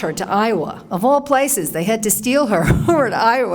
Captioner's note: laughs